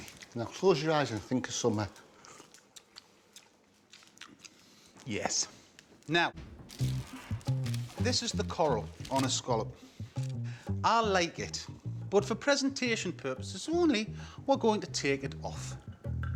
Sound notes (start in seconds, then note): 1.2 Si slurps; 2.2 both munching